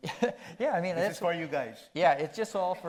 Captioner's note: chuckles